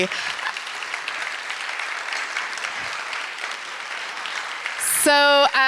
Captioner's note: applause